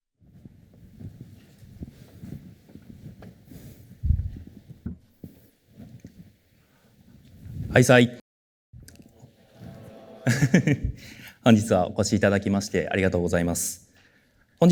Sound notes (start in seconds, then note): 1.4 silence; 9.7 chuckles